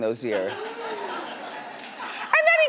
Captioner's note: laughs